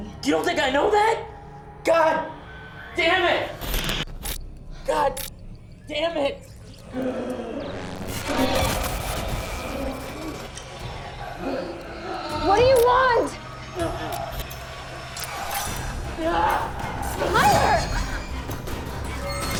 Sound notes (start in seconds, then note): 2.8 static whooshes; 6.8 tense music; 13.6 tense music; 15.7 tense dramatic music; 18.2 tense dramatic music